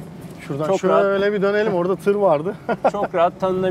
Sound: laughing

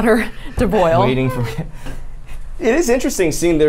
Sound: laughs

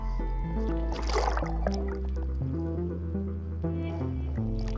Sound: water splashing

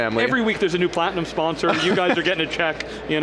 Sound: laughs

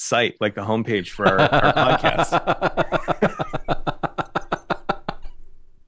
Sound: laughter

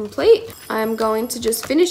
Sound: tinkling

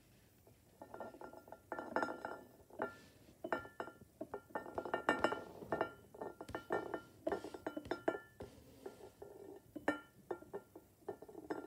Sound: bowl rolling on table and clinking against plate

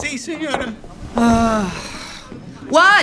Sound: sigh

